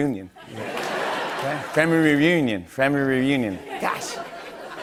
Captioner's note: laughter